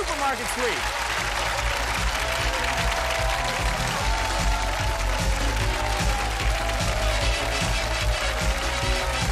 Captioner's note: applause